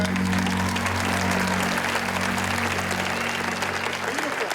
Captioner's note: applause